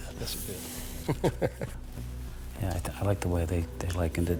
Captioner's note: laughs